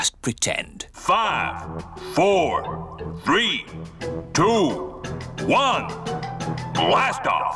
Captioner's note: on speakers